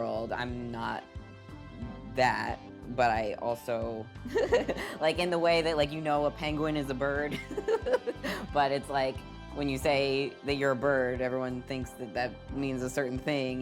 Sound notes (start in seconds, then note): 4.3 laughing; 7.4 laughing